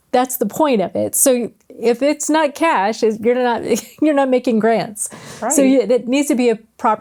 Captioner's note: laughs